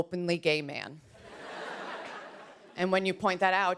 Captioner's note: laughter